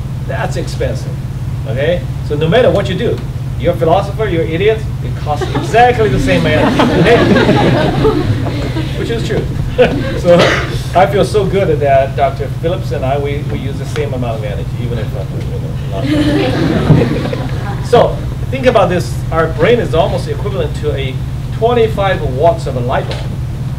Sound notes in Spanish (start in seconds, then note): 7.2 Risas; 15.9 Risas